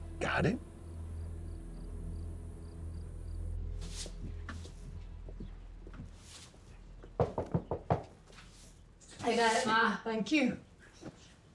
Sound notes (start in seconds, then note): 7.1 knocking